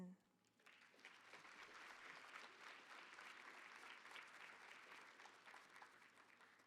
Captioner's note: applause